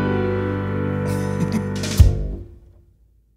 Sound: giggles

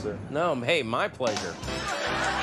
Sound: quirky music; audience laughter

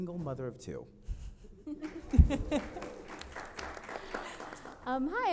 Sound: audience applauds

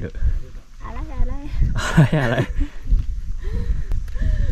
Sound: haha

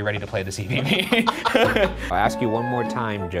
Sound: laughing

